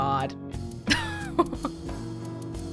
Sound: chuckles

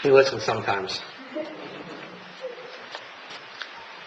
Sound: laughs

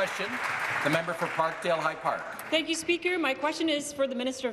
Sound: applause

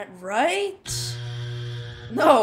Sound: buzzer

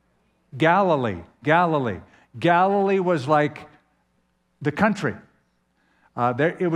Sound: none

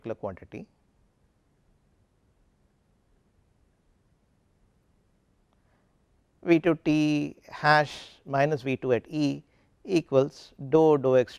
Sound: no audio from 44:18 to 44:24

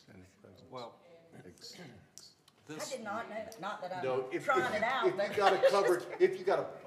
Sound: laughter

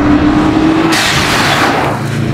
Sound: dump valve noise

